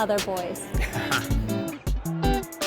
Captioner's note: chuckling